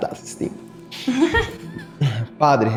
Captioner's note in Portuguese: Risos